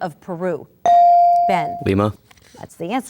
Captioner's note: ding